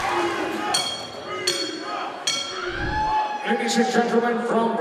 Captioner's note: bell ringing